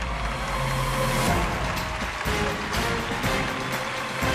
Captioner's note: cheers and applause